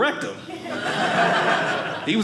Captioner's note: audience laughing